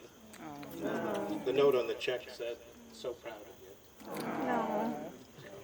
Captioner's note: audience says "awww"